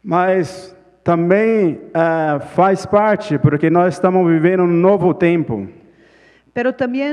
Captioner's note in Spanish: Ponente habla en portugués